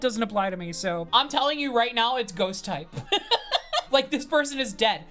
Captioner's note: laughs